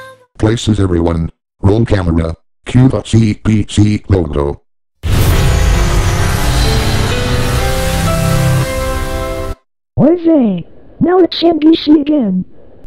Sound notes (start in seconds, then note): 0.0 singing; 5.1 enchanting chime plays